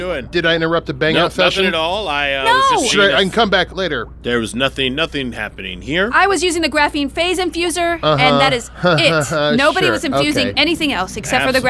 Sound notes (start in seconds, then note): 8.1 laughs